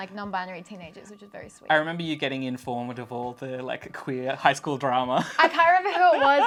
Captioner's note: laughs